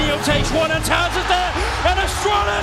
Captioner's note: applause